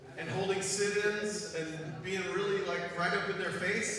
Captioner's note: none